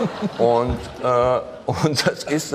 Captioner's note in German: Lachen